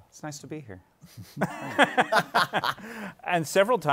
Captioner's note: laughter